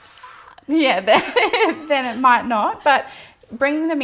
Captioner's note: laughs